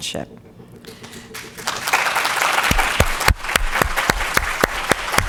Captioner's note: audience applauds